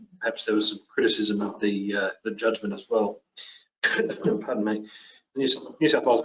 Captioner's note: coughs